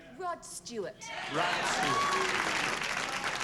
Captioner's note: cheers and applause